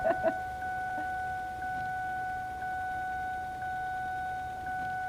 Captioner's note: seat belt chime